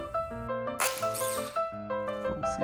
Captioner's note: chain breaking sound